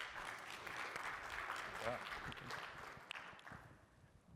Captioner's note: applause